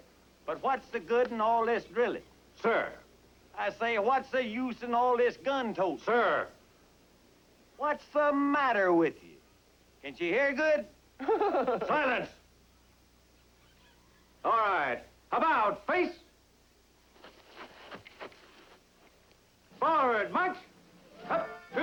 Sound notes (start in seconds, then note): 11.2 laughing